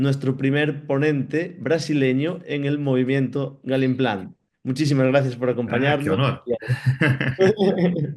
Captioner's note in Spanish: risas